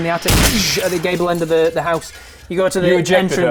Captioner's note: bang!